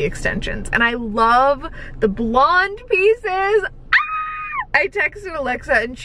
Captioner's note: screaming